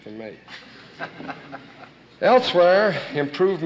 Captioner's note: audience laughing